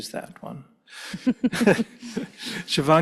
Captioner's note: panellists laugh